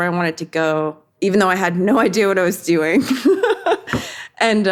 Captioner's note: chuckles